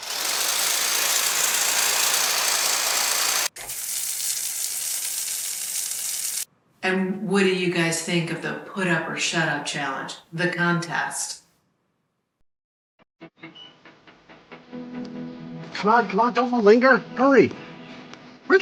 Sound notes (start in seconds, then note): 0.0 tool rattling; 3.5 water gushing; 13.8 jaunty music